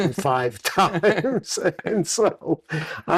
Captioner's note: laughter